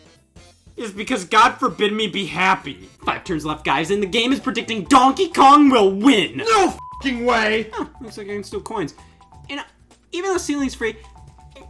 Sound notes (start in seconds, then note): 6.7 beeps